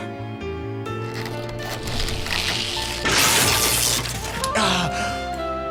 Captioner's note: SFX: creaking metal followed by electric zap; pained sigh